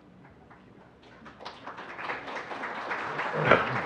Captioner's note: people clapping